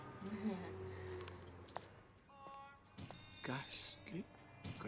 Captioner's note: Mary laughs unenthusiastically